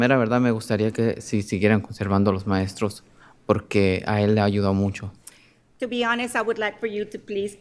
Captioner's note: speaking in spanish